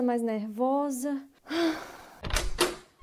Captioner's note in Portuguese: brígida suspira profudamente